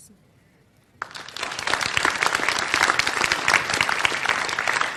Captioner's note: audience applause